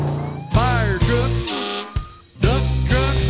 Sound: engine rumbles; siren blares; engine rumbles

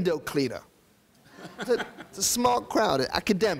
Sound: audience laughing

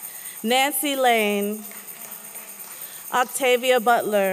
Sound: applause

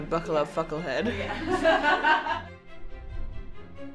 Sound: laughter

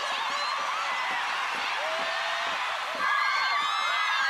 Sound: cheering continues

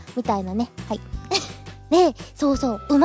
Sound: chuckles

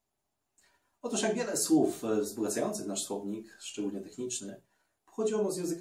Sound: Polish

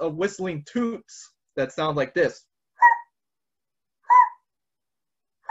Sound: vocalizes

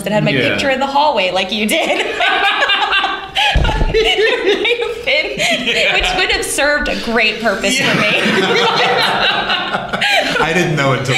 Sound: laughter

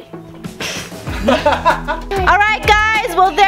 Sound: laughs

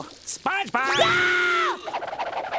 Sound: screams

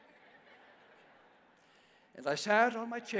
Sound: congregation laughs

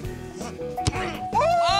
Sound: grunts

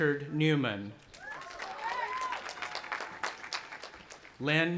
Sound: audience applauding and cheering

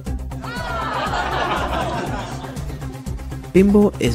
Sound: crowd Laughter

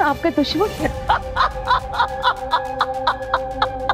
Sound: laughing

